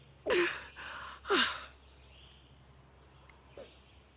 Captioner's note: Arawn groaning